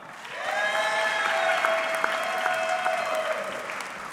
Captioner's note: audience clapping